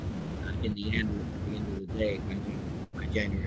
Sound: audio breaks up

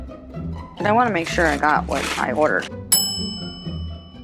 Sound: bell ding

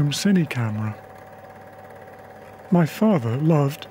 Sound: film reel whirring

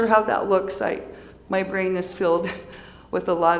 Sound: giggles

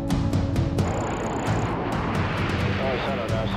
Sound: jet taking off

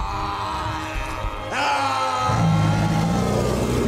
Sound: aaaahhhh

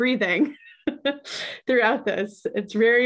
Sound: laughs

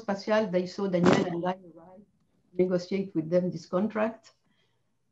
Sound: microphone interference

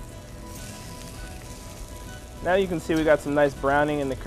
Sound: sizzling

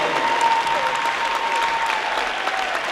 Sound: crowd cheers

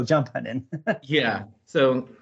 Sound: laughs

